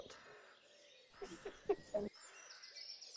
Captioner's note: both laughing; birds chirping